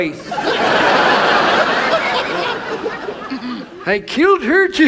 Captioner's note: audience laughs